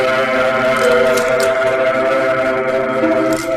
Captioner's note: doorbell rings